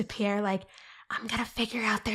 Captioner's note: whispering